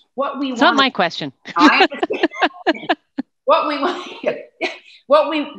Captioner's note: both laughing